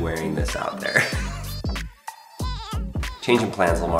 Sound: laughs

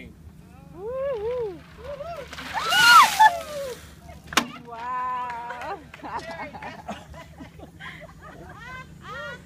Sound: woohoos, cheering, clapping, laughing

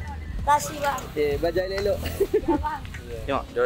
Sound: laugh

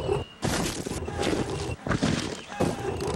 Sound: scraping

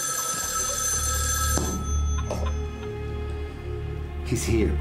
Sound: phone continues ringing

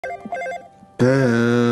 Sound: telephone is ringing

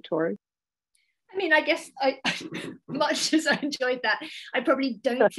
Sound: laughs

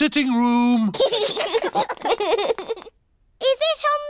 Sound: laughter

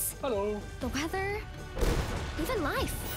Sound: thunder rumbles

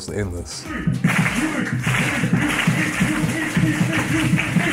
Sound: clapping and chanting

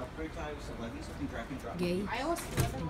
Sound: whispers

